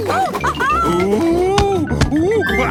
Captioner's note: laughing